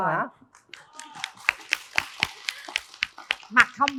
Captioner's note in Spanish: Aplaudir